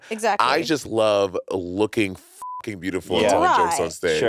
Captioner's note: beep